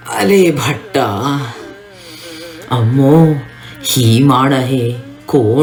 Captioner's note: speaks in मागधी